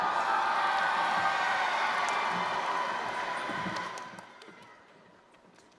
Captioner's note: cheering